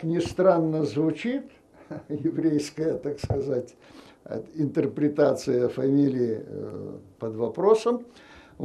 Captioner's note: laughing